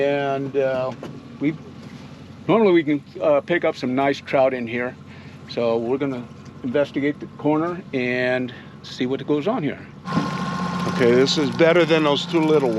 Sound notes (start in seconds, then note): 10.2 reel cranking